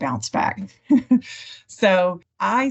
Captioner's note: laughter